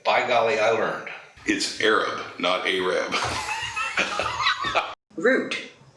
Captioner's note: laughs